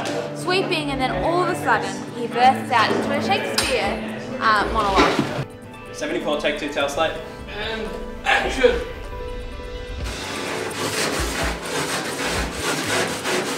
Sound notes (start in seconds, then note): 10.0 scrubbing sounds